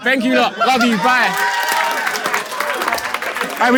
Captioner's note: people in room applauding